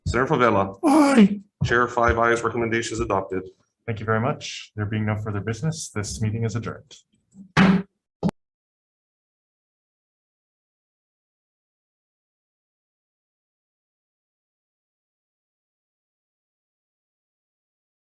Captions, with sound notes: - Senator Fevella? - Aye. - Chair, five ayes, recommendation is adopted. - Thank you very much. There will be no further business. This meeting is adjourned. (gavel bangs)